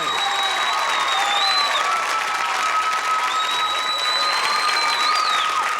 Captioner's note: cheering and applause